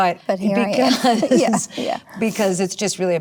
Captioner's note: Natasha laughs